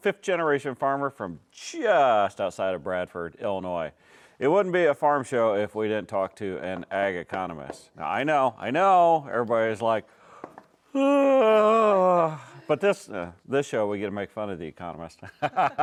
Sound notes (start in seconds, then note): 10.9 yawning